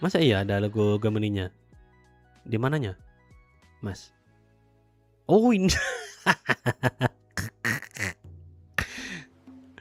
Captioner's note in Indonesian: tertawa